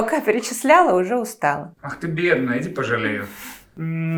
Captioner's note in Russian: закадровый голос